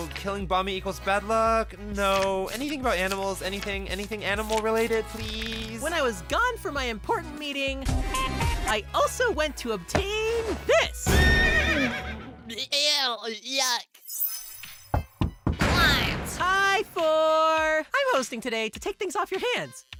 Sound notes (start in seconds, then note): none